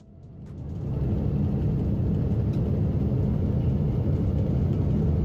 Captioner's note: engine rattling